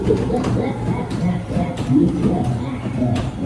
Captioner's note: scary noises come from the ride; creaky sounds and eerie music